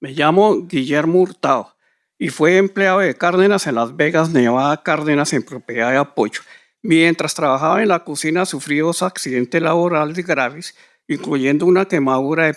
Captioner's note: speaking in Spanish